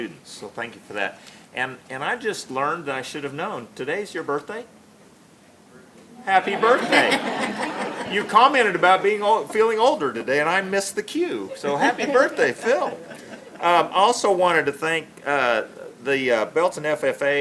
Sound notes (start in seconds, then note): 6.4 laughter; 11.6 laughter